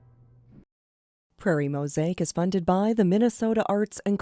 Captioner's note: voiceover